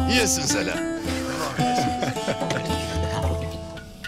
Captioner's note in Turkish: Gülme sesleri